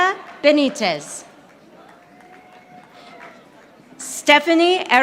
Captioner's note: audience applauding